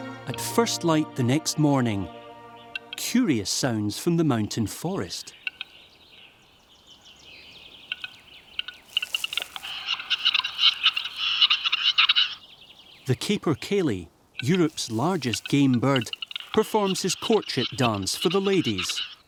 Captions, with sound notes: At first light the next morning, curious sounds from the mountain forest. [low clicking] [chattering] The capercaillie, Europe's largest game bird, performs his courtship dance for the ladies.